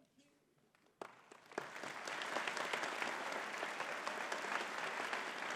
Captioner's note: audience clapping